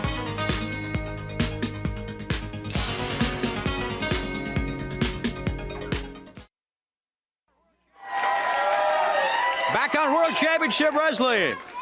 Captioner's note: crowd cheering